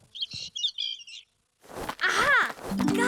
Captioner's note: chirping